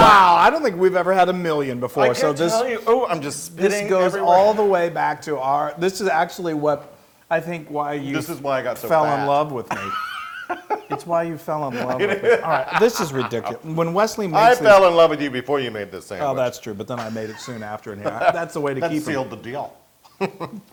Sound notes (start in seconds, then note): 11.6 laugh